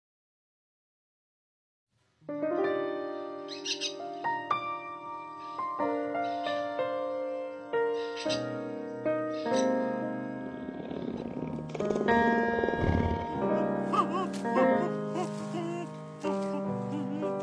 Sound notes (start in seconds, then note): 2.2 soft jazz music; 5.8 heron squawking; 10.2 bear purring; 12.6 owl hooting